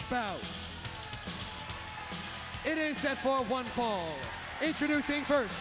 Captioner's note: applause